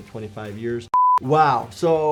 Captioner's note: tone beeps